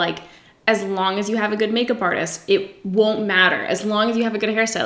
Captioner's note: none